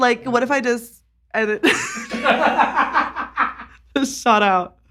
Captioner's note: laughing